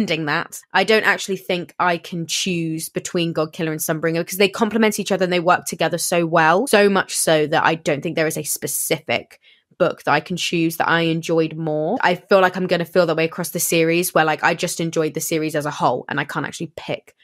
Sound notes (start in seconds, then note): none